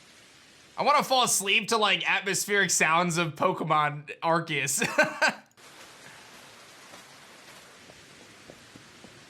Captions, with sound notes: I want to fall asleep to like atmospheric sounds of Pokemon Arceus. (laughs)